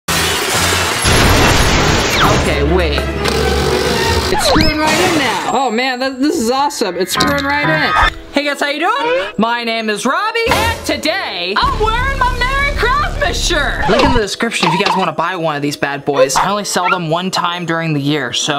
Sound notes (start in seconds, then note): 1.0 crashing sound; 3.2 drilling sound